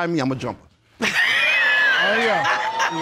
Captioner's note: all laughing